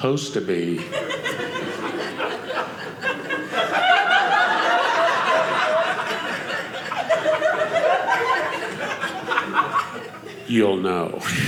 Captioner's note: audience laughing